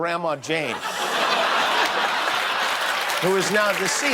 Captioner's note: laughter